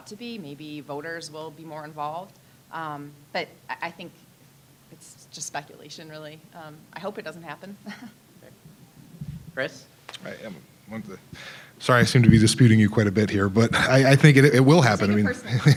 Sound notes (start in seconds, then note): 7.8 chuckling